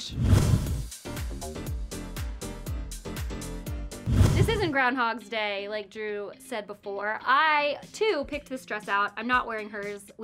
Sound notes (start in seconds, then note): 0.0 whoosh; 0.9 upbeat music; 4.0 whoosh